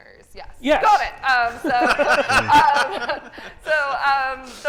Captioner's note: group laughing